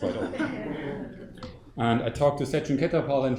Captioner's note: audience laughs